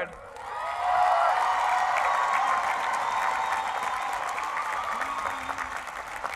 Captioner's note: cheering and applause